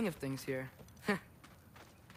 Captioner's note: laugh